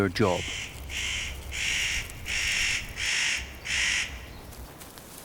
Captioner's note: bird calls